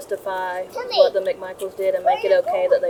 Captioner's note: children babbling